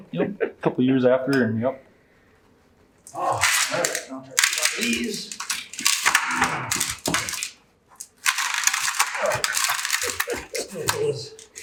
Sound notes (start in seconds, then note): 4.3 tools clanking